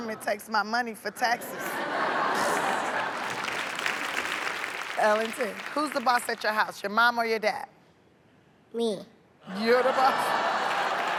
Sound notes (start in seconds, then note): 1.6 laughter, applause